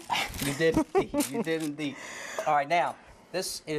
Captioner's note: laughter